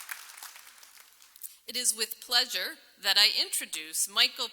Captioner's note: applause